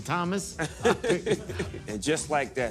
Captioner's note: laughter